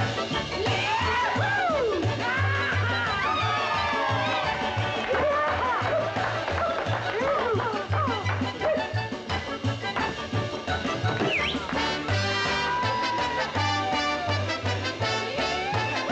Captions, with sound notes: Yah-hoo! Ha-ha! (audience cheers and whoops) (whooping) (whistles)